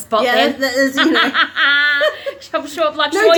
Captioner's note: laughs